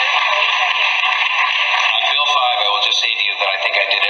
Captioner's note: audience cheers loudly and applause